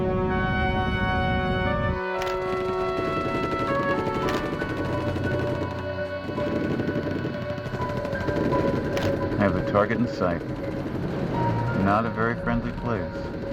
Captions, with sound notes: (guns firing distantly) (camera clicking) - I have the target in sight. Not a very friendly place.